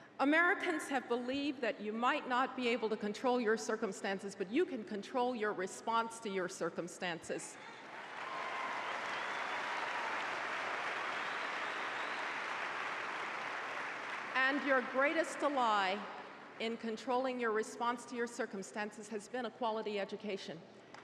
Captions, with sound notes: Americans have believed that you might not be able to control your circumstances but you can control your response to your circumstances. [Applause] And your greatest ally in controlling your response to your circumstances has been a quality education.